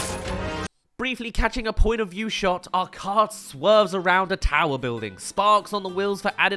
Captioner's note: crash